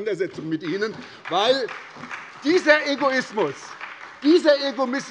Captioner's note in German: Beifall bei der SPD